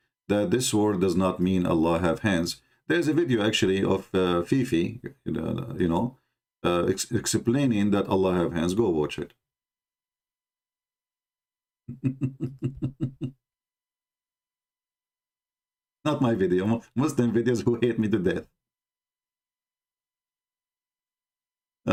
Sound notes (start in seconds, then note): 11.9 Ketawa